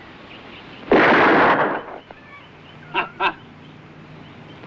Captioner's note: gun firing